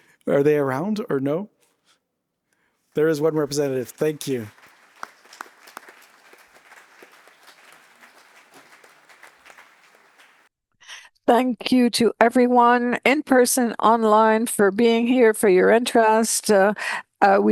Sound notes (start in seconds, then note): 5.7 applause